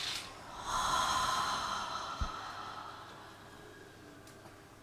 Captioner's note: people inhaling; people exhaling